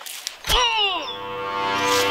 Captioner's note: Morales screams